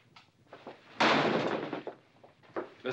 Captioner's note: door slamming